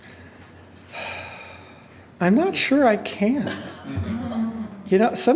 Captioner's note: sighs